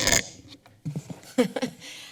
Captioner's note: chuckles